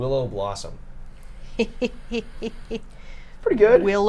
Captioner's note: snickers